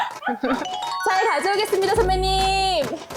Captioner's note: polite to the very end sound effect